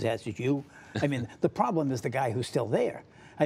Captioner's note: laughter